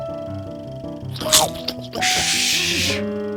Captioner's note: chomping